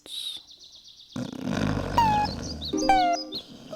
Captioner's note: snoring